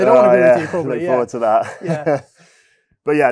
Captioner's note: chuckles